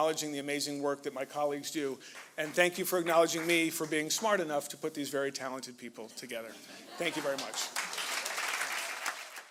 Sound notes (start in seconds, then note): 7.0 applause